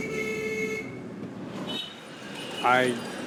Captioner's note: horns blaring